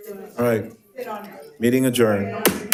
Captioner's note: gavel thumping